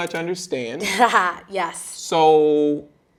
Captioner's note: chuckling